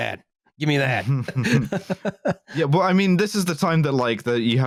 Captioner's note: laughs